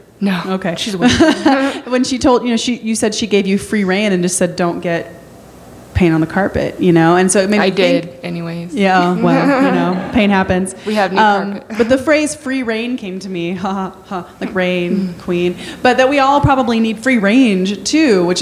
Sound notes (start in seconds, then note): 1.0 laughing; 14.3 ha ha